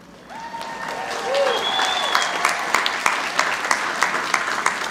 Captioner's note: everyone applauding